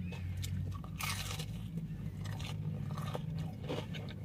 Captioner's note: crunching sound